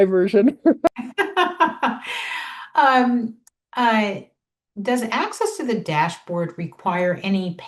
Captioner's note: laughs